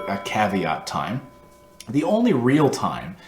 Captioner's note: bell rings